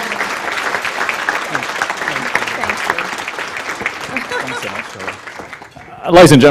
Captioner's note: applause